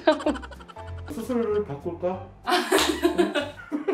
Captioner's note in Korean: 웃음